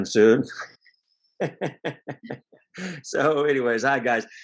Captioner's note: gùy laughs